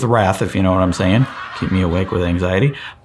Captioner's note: laugh track laughing